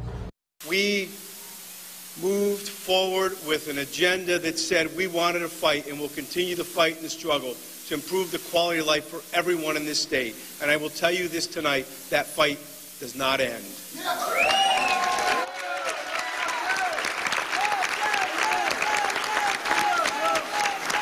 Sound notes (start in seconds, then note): 18.5 applause